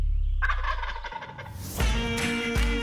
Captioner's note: turkey gobbling; upbeat music